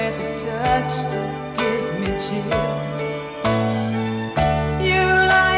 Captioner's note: chimes chiming